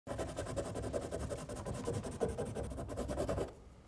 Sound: pencil scraping

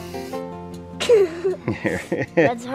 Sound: laughing

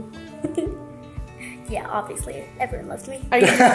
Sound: giggles

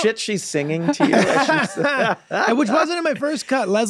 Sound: everyone laughs

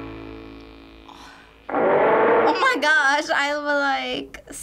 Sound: dinosaur roars

